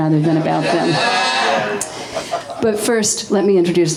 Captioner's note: audience laughing